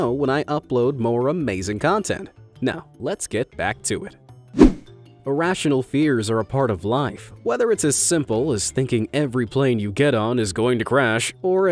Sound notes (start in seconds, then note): 4.5 image whooshing